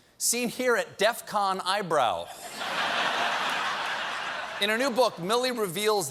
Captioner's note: laughter